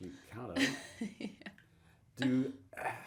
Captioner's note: chuckles